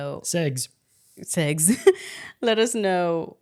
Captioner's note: laughs